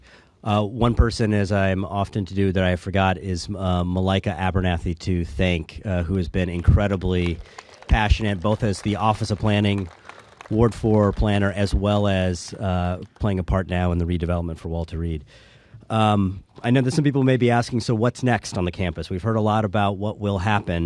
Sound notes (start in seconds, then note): 0.5 applause